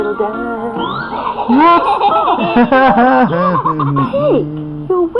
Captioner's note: laughter